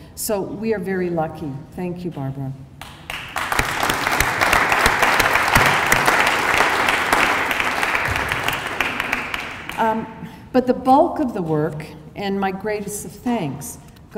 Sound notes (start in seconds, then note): 2.8 applause